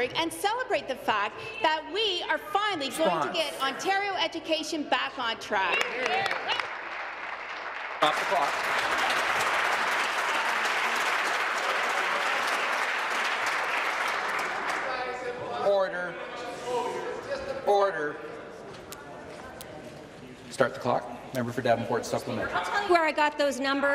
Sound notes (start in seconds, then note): 10.4 applause